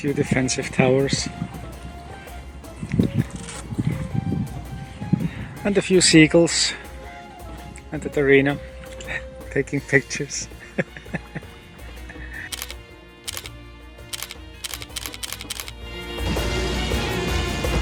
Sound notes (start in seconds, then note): 11.4 laughter